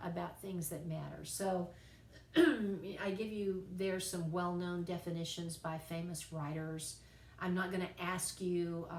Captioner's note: cough